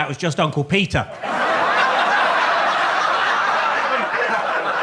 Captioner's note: audience laughs